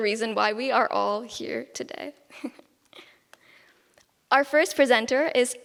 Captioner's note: giggles